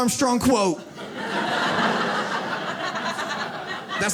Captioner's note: audience laughs